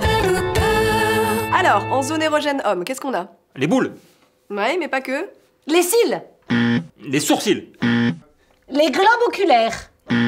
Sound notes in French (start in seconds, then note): 7.8 bruit de mauvaise réponse